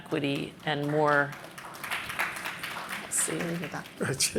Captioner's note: applause